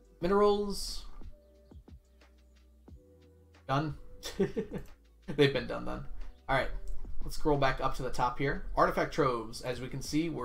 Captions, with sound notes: Minerals. Done. (laughs) They've been done. All right. Let's scroll back up to the top, here. Artifact Troves, as we can see,